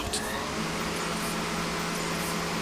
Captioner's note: machine whirring